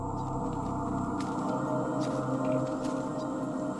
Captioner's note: footsteps in dry forest